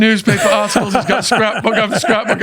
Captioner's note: laughing